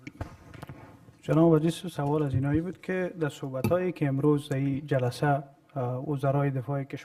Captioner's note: speaking in foreign language